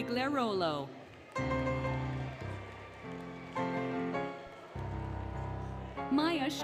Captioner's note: applause, Cheering, Music